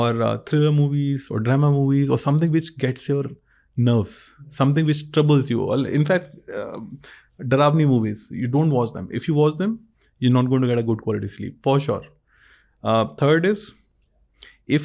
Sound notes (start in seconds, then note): 7.0 speas in Hindi